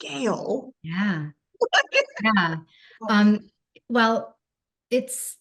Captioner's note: chuckling